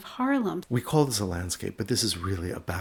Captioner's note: voiceover